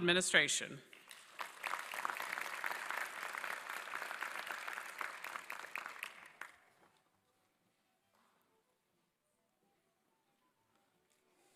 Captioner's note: applause